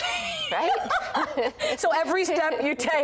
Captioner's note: laughter